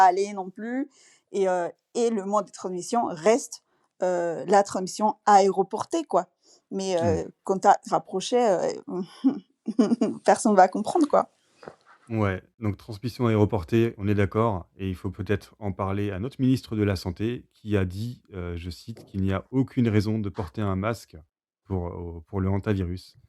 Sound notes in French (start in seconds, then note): 8.9 rires